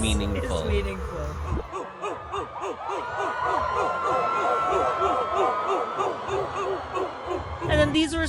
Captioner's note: crowd barking